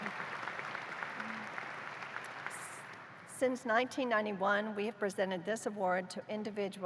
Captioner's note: applause